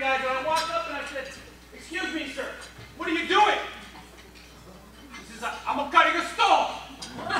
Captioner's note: with Italian accent